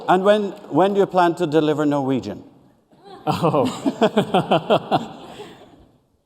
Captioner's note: laughter